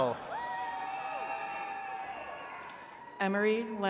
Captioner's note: attendees cheering